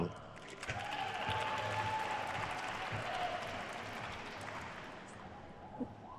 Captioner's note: attendees cheering and applauding